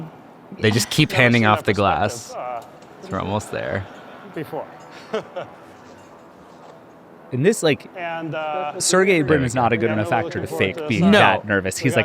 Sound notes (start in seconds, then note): 4.9 chuckling